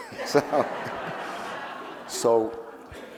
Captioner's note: audience laughing